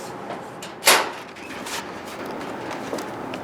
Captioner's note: storage locker opening